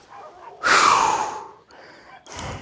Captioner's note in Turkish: Derinden nefes alıyor